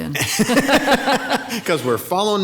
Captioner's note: both laughing